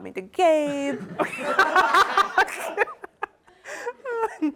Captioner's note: laughter